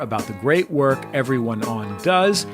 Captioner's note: none